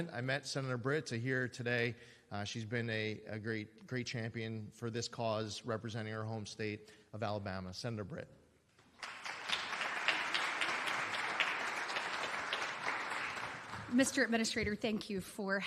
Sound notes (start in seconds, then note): 8.8 applause